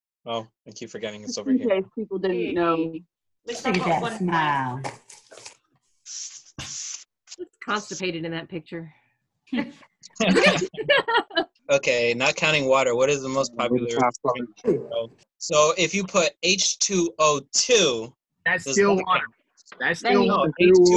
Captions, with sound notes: Oh, I keep forgetting it's over here It's okay. People don't really know me Oh... He is constipated in that picture [laughter] Okay, not counting water, what is the most popular drink in the world? So if you put H2O2 That's still water That's still not